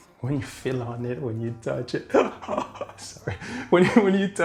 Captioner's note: laughs